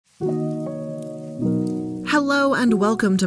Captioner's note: rain tapping; gentle music